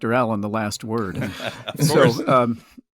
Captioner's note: laughs